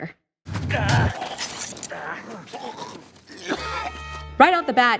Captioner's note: man grunting and gurgling